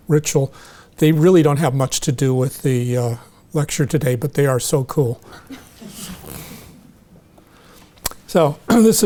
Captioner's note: audience chuckling